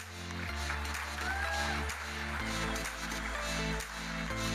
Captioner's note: electronic dance music; audience applauding